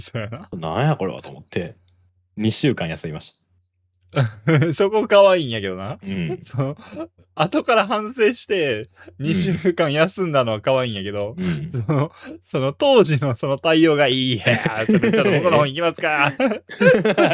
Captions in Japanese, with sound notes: そやな[笑い] なんやこれはと思って 2週間休みました そこ可愛いんやけどな うん[咳払い][笑い] 後から反省して 2週間休んだのは可愛いんや うん。のそのがいい。ちょっと僕の方行きますか? [笑い]